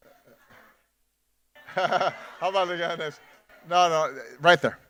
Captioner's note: laughs and mumbles